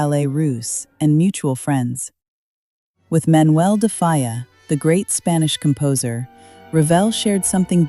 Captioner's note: confident